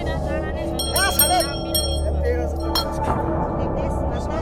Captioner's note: bell jingling